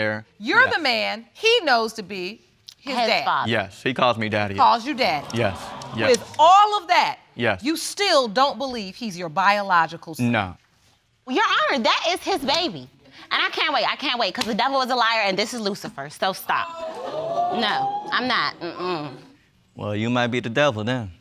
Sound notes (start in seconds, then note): 16.7 audience exclaiming